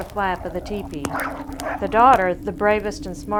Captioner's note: dogs barking